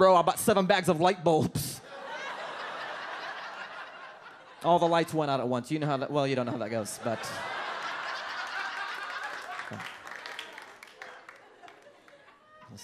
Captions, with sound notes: "I bought seven bags of light bulbs." (audience laughs) "All the lights went out at once. "You know how that, "well, you don't know how that goes, but." (audience laughs and claps)